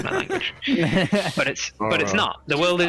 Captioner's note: laughs